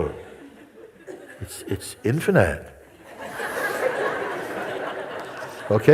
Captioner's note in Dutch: gelach